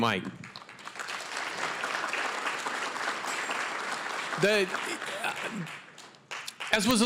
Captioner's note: applause